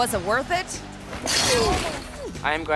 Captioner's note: fence rattles